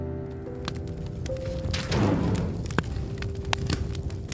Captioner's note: fire crackling